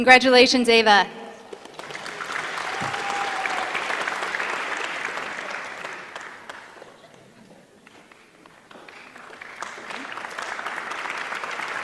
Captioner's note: applause